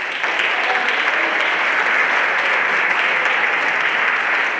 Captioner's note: everyone applauding